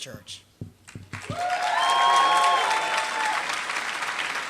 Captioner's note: applause